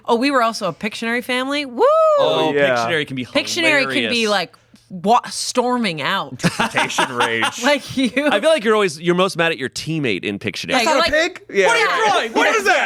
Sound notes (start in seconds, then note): 6.4 laughs